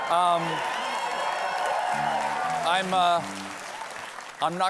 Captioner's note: cheers and aplause